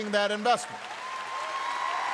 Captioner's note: applause